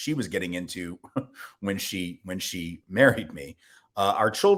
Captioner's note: laughter